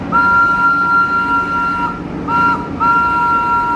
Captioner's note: horn tooting